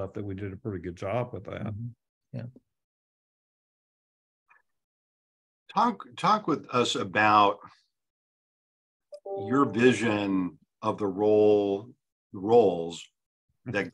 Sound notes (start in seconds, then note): none